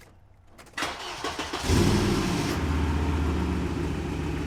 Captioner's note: engine cranking